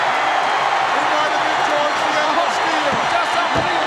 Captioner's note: audience cheering